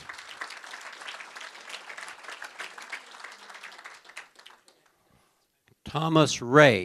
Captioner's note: applause